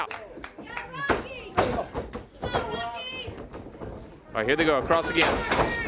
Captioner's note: crowd chatter